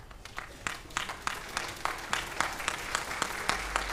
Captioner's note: audience applauds